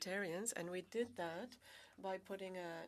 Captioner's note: speaking French